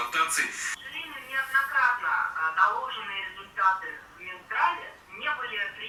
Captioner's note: on the phone